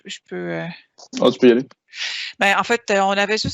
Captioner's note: speaking in foreign language